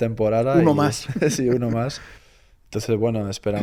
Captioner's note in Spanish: Risas